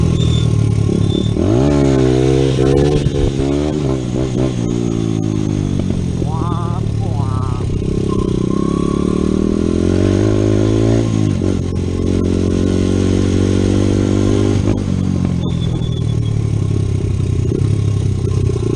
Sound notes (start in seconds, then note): 7.9 more childish noises